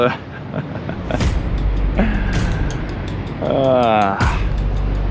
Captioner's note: chuckling